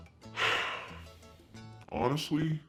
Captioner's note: sighs